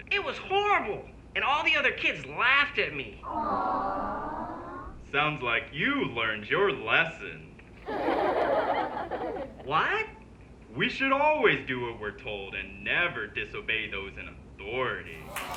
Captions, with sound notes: It was horrible. And all the other kids laughed at me. (crowd awws again) - Sounds like you learned your lesson. (crowd laughs) - What? - We should always do what we're told... ...and never disobey those in authority.